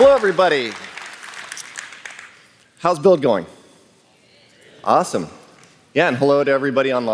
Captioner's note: applause